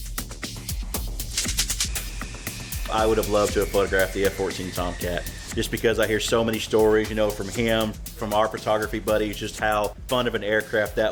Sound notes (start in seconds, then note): 1.2 rhythmic clicking; 4.8 jet engine whine